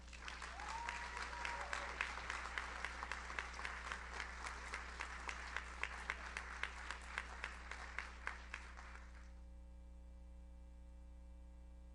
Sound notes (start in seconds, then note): 0.1 audience cheers; 2.5 audience applauds